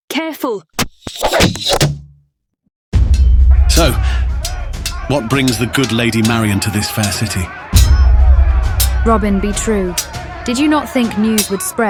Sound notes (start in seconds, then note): 2.1 sounds of dueling